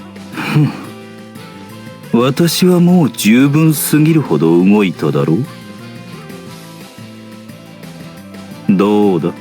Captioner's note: sigh